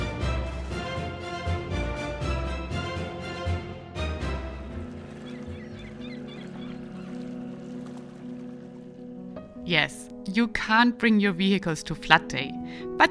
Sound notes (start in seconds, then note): 4.7 birds cawing; 5.0 tranquil music